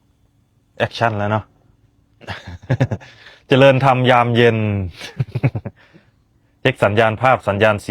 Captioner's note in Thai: เสียงหัวเราะ